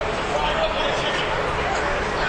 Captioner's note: crowd chattering